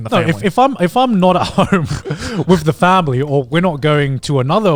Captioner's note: laughs